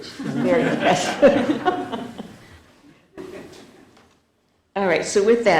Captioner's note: laughter